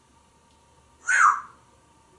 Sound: whistling

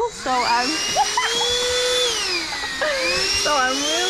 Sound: vacuum blaring

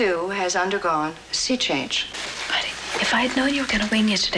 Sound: whispers

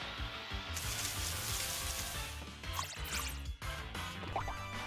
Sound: leaves rustling

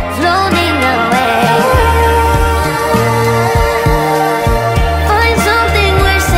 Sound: ooh, ooh

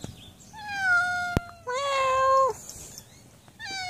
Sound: cat meows; meows; cat meows

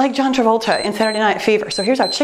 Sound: timer beeps

